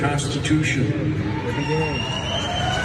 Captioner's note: applause